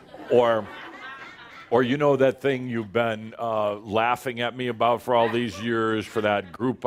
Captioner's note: laughter